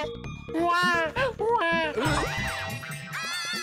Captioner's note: fake crying